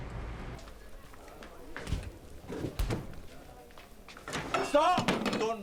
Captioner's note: patrons chattering; food sizzling